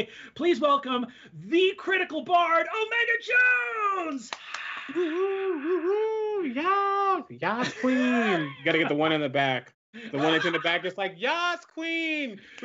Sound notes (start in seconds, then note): 4.3 cheers; 4.3 cheers and claps